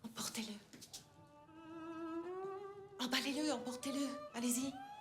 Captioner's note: speaking french